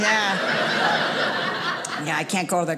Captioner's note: audience laughing